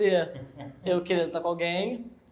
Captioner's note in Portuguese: risos